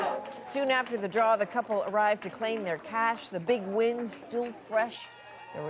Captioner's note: cheers and Applause